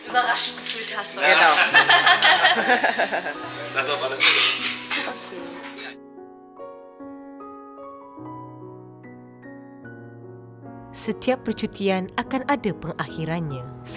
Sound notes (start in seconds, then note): 1.3 speaking German; 1.4 laugh; 3.9 speaking German; 6.5 background music